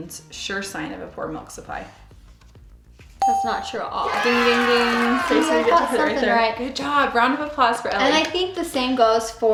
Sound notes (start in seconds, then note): 3.2 ding; 4.1 audience applause